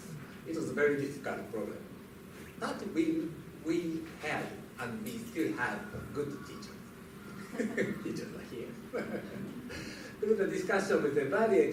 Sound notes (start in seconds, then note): 8.8 laughter